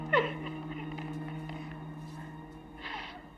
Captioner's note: Jeri crying